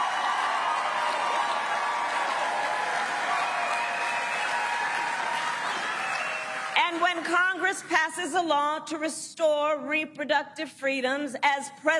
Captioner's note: cheering and applause